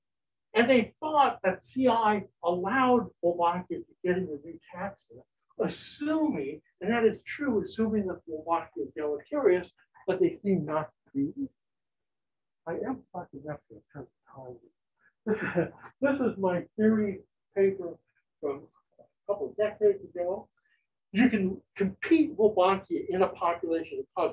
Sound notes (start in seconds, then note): 15.2 chuckles